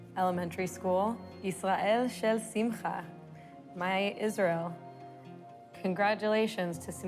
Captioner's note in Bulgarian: говори на иврит